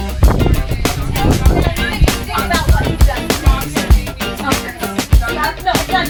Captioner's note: people talking on bus